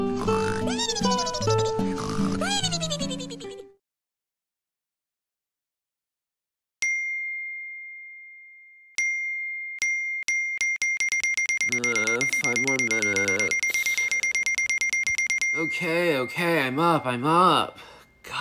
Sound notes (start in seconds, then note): 6.8 ding!; 8.9 ding!; 10.3 repeated dings; 13.9 dinging continues